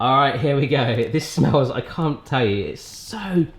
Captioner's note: none